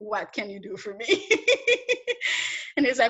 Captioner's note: laughs